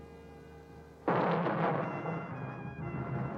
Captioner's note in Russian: грохот лавины